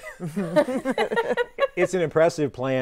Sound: others laughing

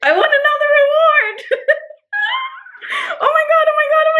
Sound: chuckling

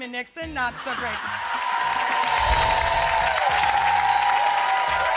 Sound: audience applauding

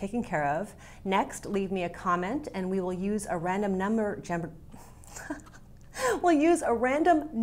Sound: laughs

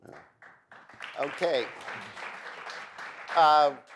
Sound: audience applauds

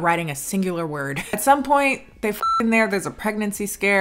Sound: beep

